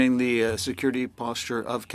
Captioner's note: speaking French